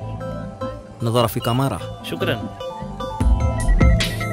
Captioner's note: Speaking in Arabic